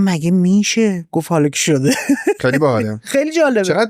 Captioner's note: laughs